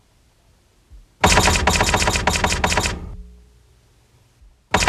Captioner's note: typing tone